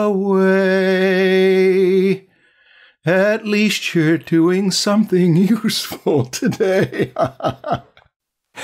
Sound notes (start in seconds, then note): 6.4 laughter